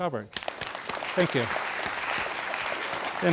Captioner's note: audience applauding